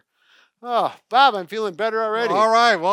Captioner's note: exhales